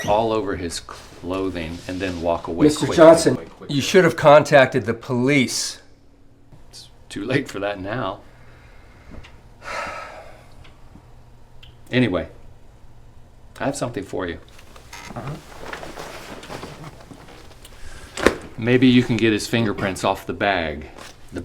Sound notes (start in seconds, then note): 9.8 sighs loudly; 16.3 bag thuds; 16.3 duffel bag rustles